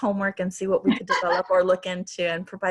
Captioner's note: laughs